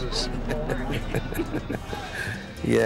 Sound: laughter

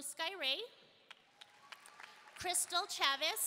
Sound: audience applauding

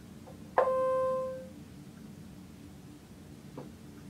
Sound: machine beeping

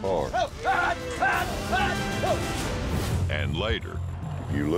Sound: shouting

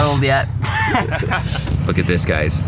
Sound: laughing

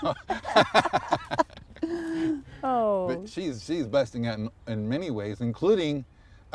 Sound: laughter

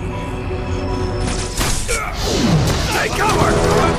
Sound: gunshots

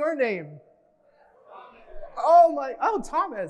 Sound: audience replying faintly

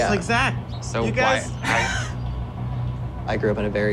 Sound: laughs

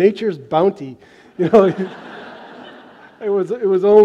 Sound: laughter

